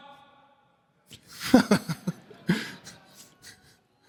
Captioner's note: laughter